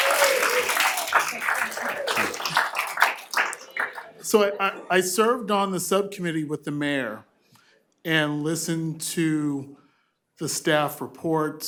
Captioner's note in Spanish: aplausos